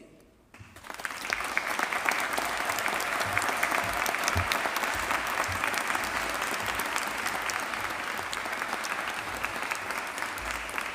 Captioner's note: applause